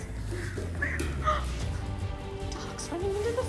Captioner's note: gasps